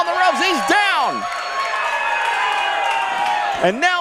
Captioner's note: crowd cheers